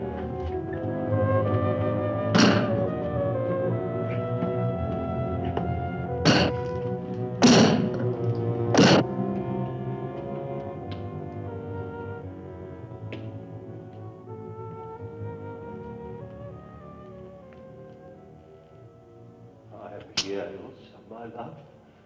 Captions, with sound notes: (crowbar thudding) (ax thudding) (soft foreboding music) - I'm here, Ilsa, my love.